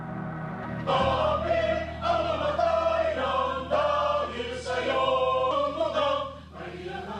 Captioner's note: members speaking in foreign language